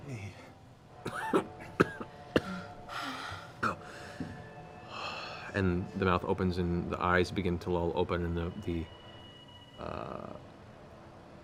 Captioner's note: weak coughing